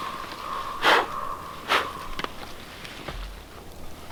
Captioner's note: blowing